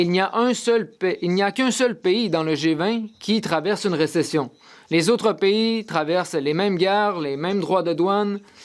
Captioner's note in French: voix de l'interprète